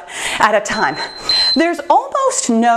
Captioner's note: timer beeps